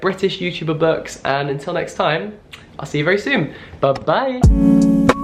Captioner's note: kisses; funky lo-fi music